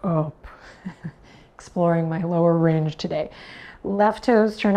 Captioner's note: chuckles